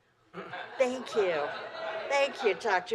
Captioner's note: laughter